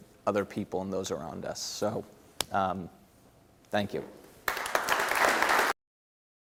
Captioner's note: clapping